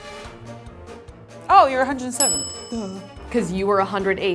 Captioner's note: bell dings